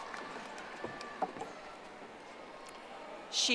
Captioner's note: audience applauding